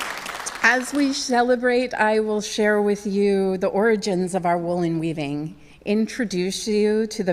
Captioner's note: cheers and applause